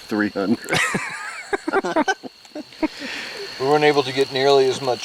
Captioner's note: laughs